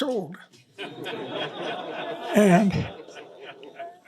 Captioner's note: laughter